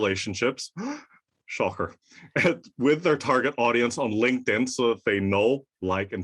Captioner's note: gasp